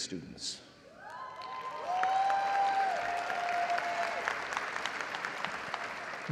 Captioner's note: audience cheering and applauding